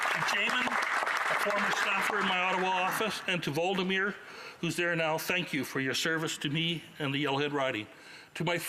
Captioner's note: applause